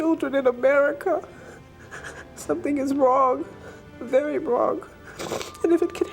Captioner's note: sobs